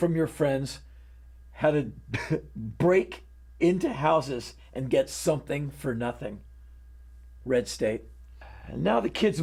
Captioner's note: scoffs